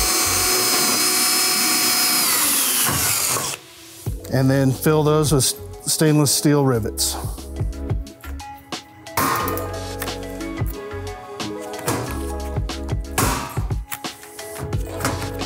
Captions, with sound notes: And then fill those with stainless steel rivets. (lively music) (tool gun clicking)